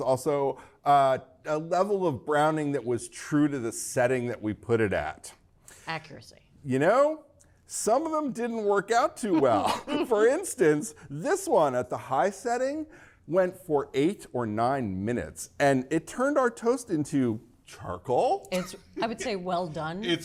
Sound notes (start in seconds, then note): 9.3 both laughing